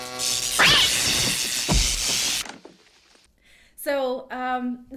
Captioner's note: electricity cracks and sizzles; cat screams